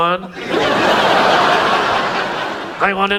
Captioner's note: audience laughs